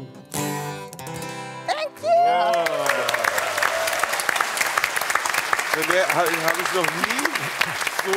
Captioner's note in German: Applaus